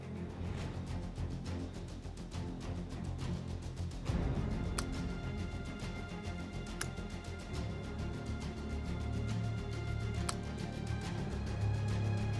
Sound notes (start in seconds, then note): 0.4 dramatic music intensifies; 5.4 keys clicking